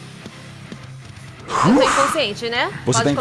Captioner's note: huffs